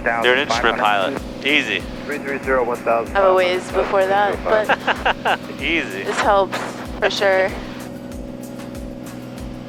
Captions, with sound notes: You're an instrument pilot, easy. - I'm a ways before that, but. (laughs) - Easy. - This helps, for sure.